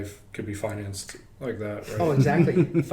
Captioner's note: clicks